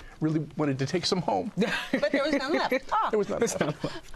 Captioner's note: laughs